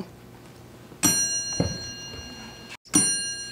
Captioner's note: ding